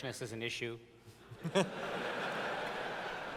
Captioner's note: laughter